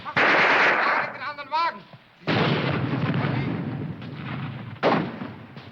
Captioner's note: shouting in foreign language